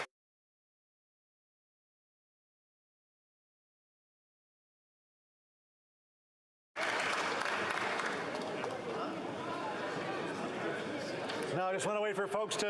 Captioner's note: applause